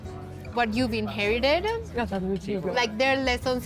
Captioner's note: speaking Spanish